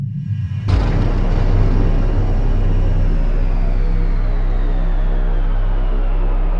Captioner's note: loud bang